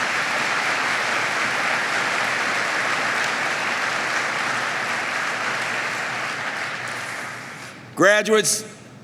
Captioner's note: applause